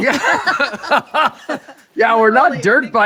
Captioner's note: laughing